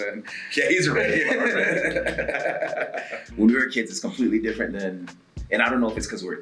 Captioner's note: laugh